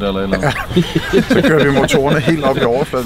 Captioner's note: laughing